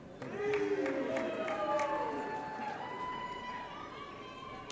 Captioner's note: applause & Cheering